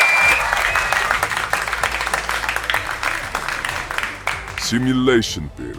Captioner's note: audience Cheering